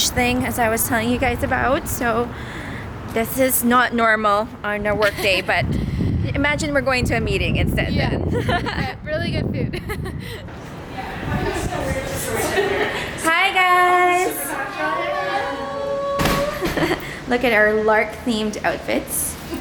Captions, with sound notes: as I was telling you guys about. This is not normal on our workday, but imagine we're going to a meeting instead, then. - With really good food. (laughs) (staff members chatting) - Hi, guys. - Hello. - Look at our Lark-themed outfits.